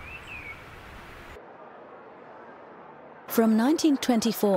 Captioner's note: crowd rustling